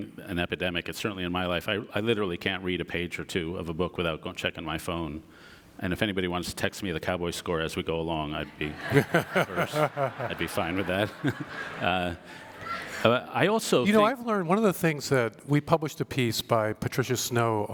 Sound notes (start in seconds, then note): 11.5 audience laughter